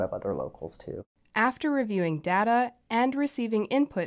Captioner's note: voice-over